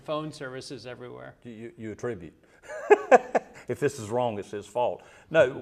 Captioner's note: laugh